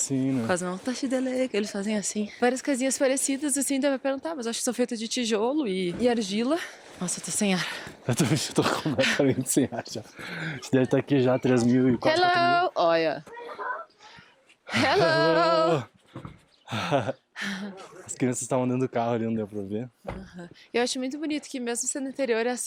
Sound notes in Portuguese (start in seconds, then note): 8.8 risadas; 16.7 suspirando